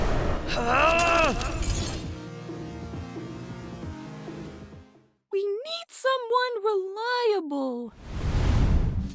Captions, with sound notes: [GRUNTING] We need someone reliable…